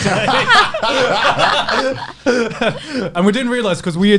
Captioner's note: laughs